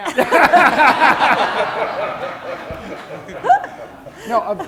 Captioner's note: laughter